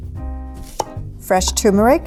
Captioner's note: chops